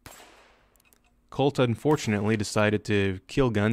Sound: gunfire

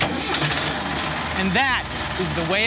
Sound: tractor engine starts up

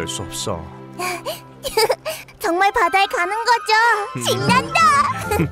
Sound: giggling

